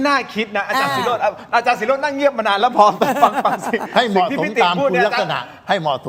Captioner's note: laughter